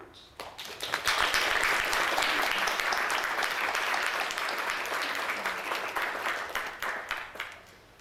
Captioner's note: audience applauding